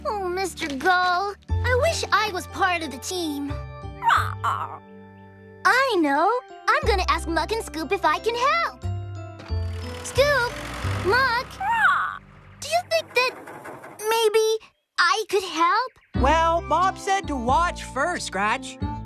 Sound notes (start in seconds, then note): 4.0 squawk